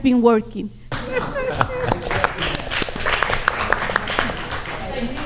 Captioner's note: audience applauds